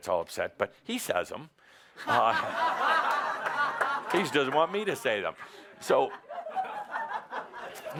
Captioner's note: laughter